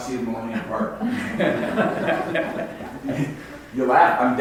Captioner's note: audience laughs